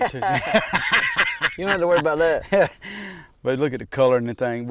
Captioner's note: laughing